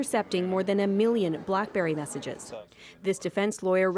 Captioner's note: speaking French